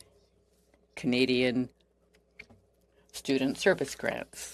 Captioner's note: speaking French